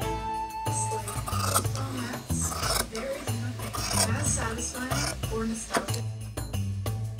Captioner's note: scissors cutting